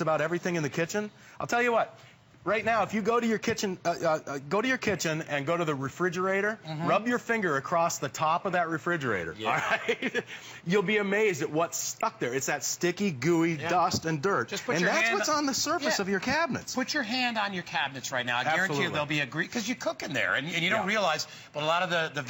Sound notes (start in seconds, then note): 9.4 laughter